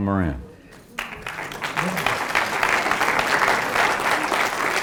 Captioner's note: audience applauds